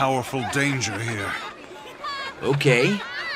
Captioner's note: kids laughing